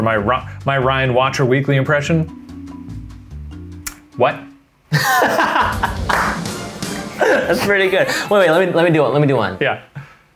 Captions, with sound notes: - Are you ready for my Ryan Watcher Weekly impression? What? (laughing) (exciting music) (claps) - That's pretty good. Wait, let me do one. Let me do one. - Yeah.